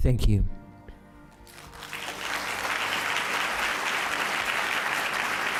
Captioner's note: applause